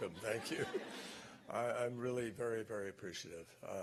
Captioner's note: laughter